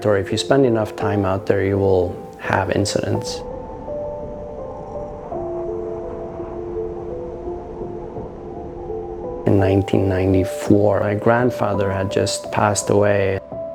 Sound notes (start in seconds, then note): 3.8 wind howling; 7.6 soft music